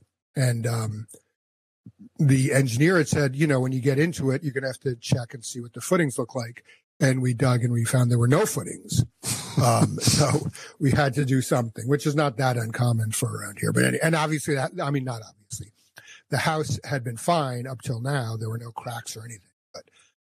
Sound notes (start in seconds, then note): 8.2 laughs